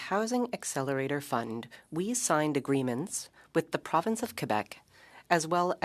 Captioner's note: speaking French